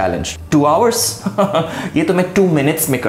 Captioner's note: dramatic laughter